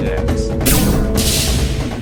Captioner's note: shoots laser